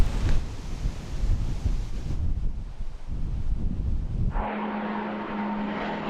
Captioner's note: gentle wind; airplane engine